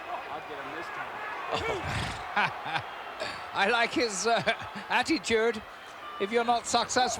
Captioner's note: laugh